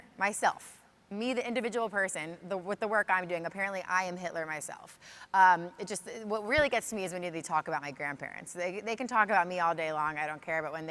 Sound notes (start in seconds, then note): none